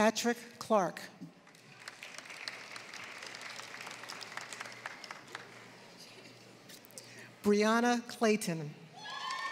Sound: applause; applause

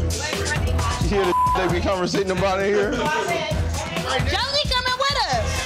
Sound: beep

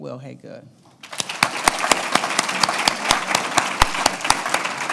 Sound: applause

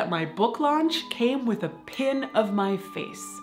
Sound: bell ringing

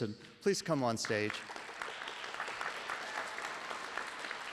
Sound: applause

